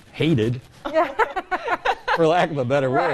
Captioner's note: both hosts laughing